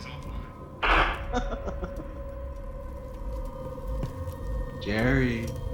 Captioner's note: vampire laughing